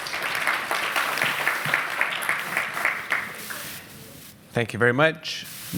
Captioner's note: applause